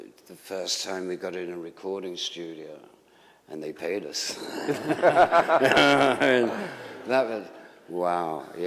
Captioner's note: laughter